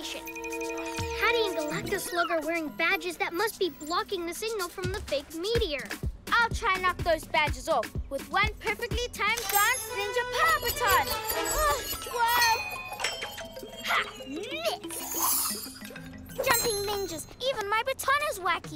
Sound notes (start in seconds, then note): none